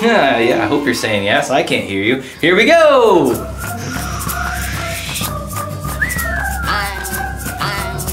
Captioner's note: whooosh; boing. Boing. Boing